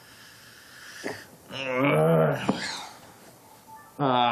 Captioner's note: groans